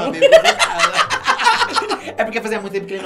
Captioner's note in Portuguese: risos